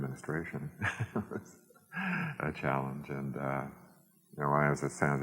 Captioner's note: laughs